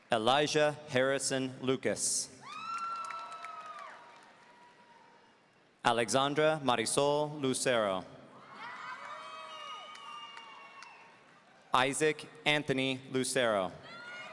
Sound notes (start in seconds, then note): 2.4 audience cheering; 8.4 audience cheering